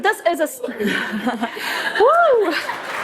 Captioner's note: laughter; applause